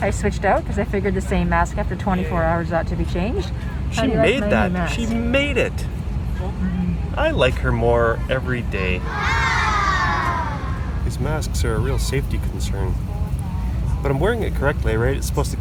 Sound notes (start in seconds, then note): 9.0 children "awing" sound effect